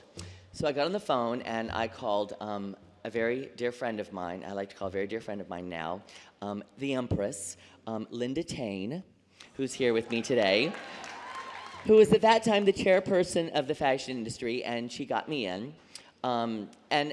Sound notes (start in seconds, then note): 9.8 applause